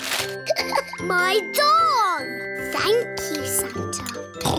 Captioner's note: laughs